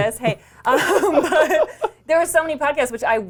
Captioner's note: laughs